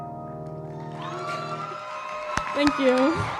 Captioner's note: cheering